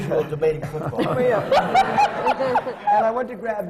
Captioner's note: laughter